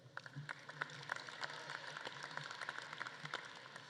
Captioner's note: audience claps